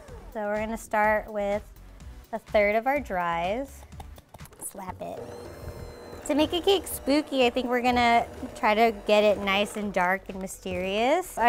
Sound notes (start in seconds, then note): 4.9 mixer whirs